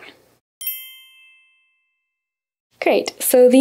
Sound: chime rings

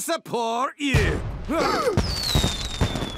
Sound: explosion; all gasp

